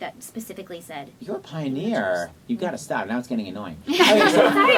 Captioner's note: laughter